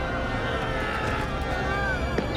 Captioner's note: none